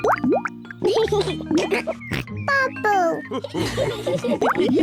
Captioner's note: all laugh; laughs and snorts